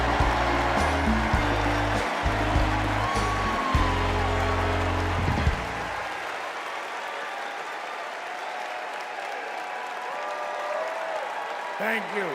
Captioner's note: cheers and applause